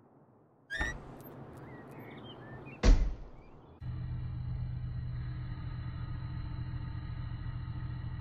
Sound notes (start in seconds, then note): 3.9 factory noises